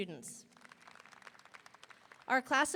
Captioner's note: audience applauding; audience cheering